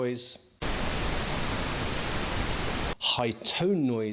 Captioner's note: static blaring